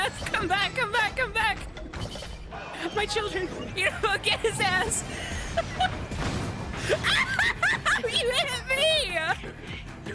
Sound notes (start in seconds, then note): 5.3 laughter; 7.0 yelling